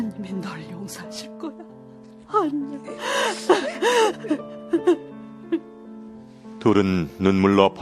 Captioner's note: laughter